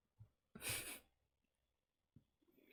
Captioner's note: sad laugh